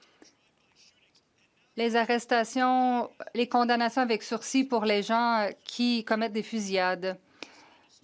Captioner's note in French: voix de l'interprète